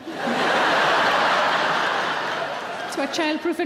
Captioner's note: audience laughing